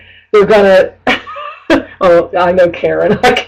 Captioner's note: chuckling